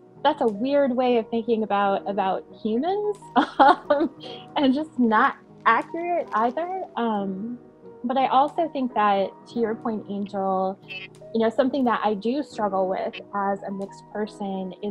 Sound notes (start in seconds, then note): 4.7 laughing